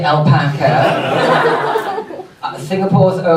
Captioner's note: audience laughs